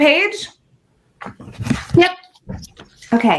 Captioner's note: none